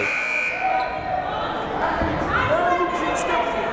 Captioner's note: buzzer blaring; yelling